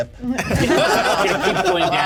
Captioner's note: laughter